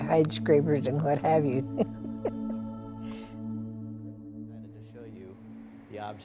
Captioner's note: laughs